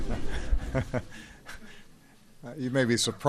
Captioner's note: laughter